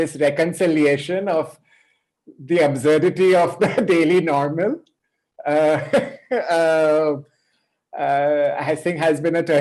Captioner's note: chuckles